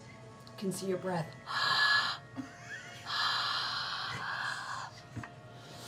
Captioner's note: exhales